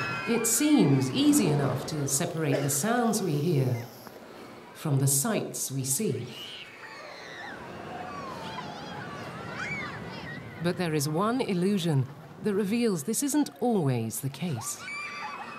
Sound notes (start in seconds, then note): 6.4 children cheering